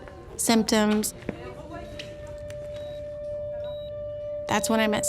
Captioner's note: machines beeping